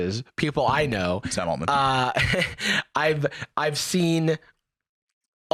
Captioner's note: laughs